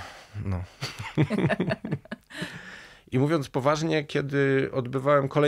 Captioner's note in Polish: śmiech